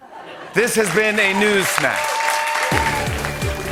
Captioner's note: applause